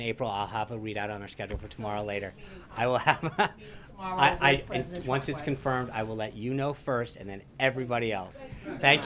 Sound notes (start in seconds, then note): 2.7 laughs